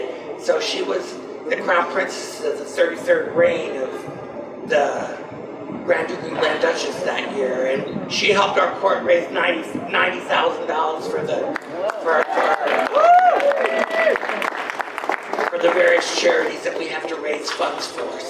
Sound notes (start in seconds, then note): 11.5 audience applause